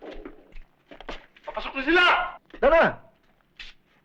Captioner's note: non-english speech